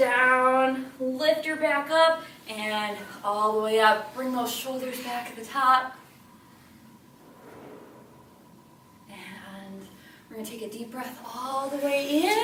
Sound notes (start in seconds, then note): none